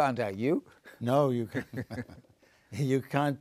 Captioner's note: laughing